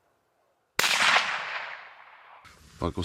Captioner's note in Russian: выстрел